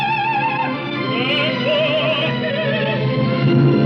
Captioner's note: agitated